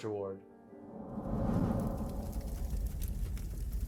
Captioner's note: torch blazing